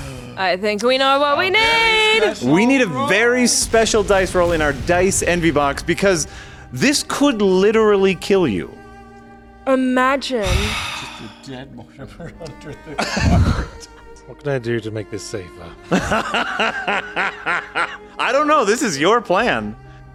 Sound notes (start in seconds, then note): 10.4 sighs; 15.9 laughs